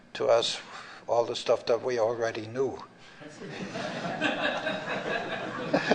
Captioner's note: laughter